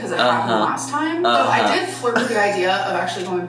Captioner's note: chuckling